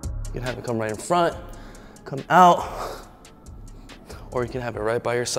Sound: sighs

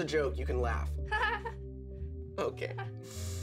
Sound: laughing awkwardly

